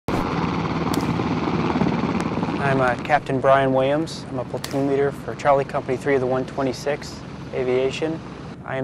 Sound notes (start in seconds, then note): 2.5 helicopter whirring